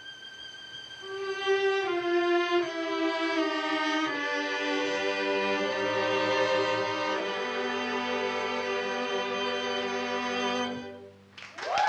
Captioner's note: applause